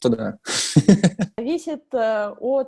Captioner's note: laughs